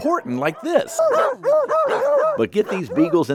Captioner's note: dogs barking